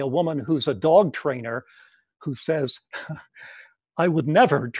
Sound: giggles

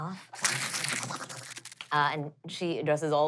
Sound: skittering

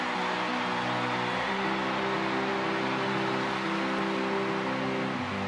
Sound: cheering

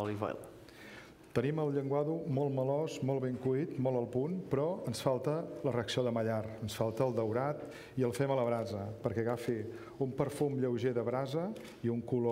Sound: speaking catalan

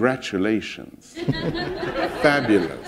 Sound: laughter

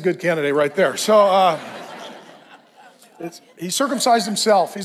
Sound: congregation laughs

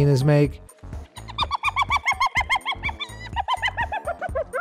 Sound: hyena cackling

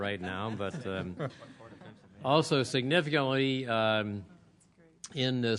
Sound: laughter

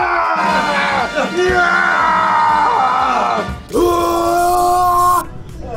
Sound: groaning victoriously

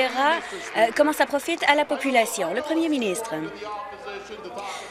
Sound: applause

